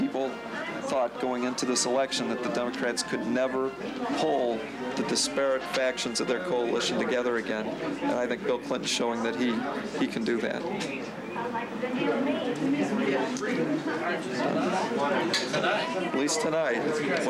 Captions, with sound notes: -People thought going into this election that the Democrats could never pull the disparate factions of their coalition together again, and I think Bill Clinton's showing that he, he can do that. (crowd noise) At least tonight. Wait till next week.